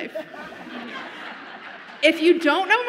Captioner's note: audience laughs